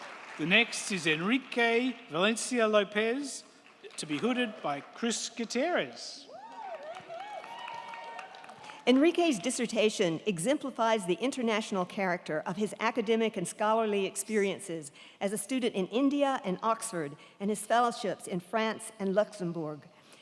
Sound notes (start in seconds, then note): 6.2 crowd cheering; 6.2 crowd clapping